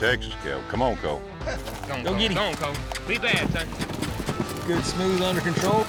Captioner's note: cheers